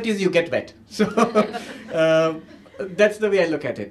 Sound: laughter

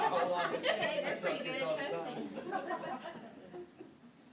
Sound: laughter; chatter continues

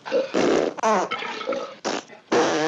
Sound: pfft!

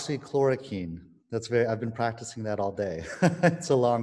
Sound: laughing

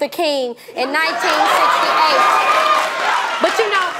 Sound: audience applauding

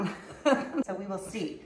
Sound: woman chuckles

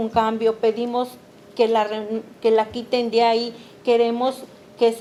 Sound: speaking Spanish

